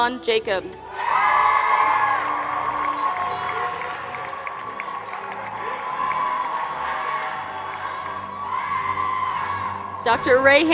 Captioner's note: applause